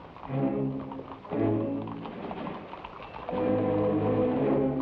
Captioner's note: horse hooves patter